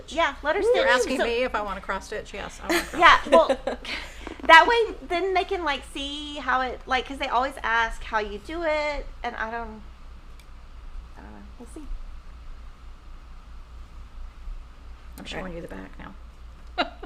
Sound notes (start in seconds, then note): 2.6 laughing